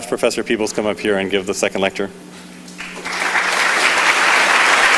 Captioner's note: clapping